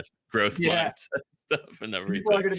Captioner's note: all laugh